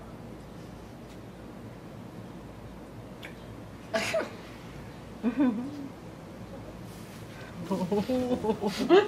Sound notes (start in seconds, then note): 5.2 chortle